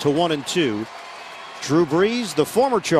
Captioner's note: cheers and applause